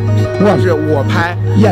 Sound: foreign language

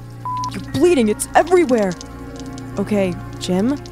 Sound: beep

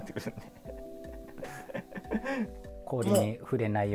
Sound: laughing

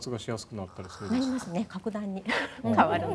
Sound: yawns

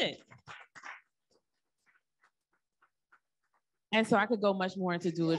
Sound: audience applauding

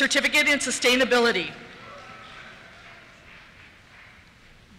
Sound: applause

